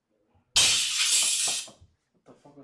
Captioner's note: crash